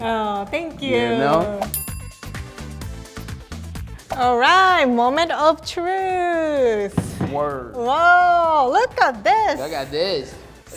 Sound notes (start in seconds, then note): 1.6 bell dinging